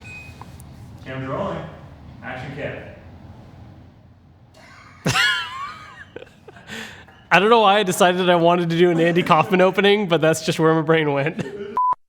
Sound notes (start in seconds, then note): 4.5 laughs